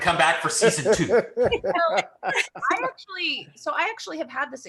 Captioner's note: laugh